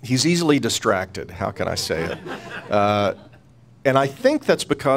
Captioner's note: laughing